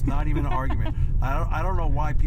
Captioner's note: laughs